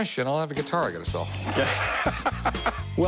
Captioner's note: laughs